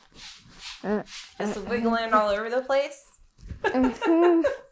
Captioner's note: laughs